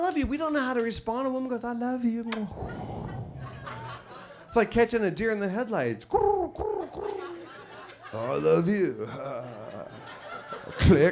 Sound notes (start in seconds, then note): 6.2 coos; 9.7 chuckles